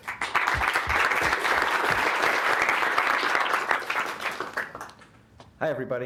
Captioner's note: applause